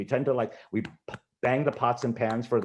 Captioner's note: clapping